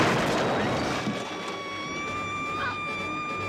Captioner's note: screaming